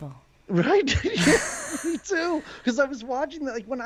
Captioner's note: laughs